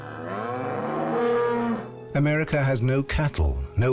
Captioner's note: bellows